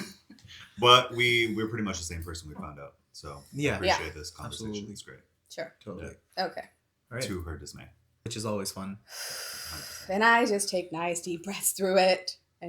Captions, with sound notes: (laughing) But we're pretty much the same person we found out, so I appreciate this conversation. Yeah, absolutely. It's great. Sure, okay. To her dismay. Which is always fun. (sighing) Then I just take nice deep breaths through it,